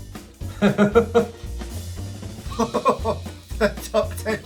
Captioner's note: laughing